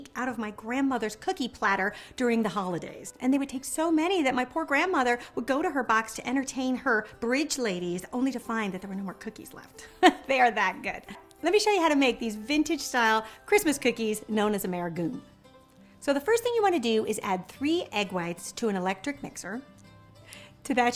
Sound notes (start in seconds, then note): 10.0 chuckling